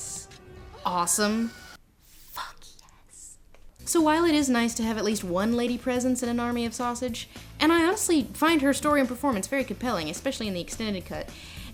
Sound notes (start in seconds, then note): 1.9 whispers